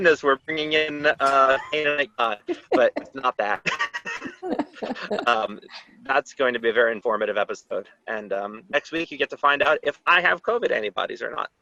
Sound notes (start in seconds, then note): 3.7 laughter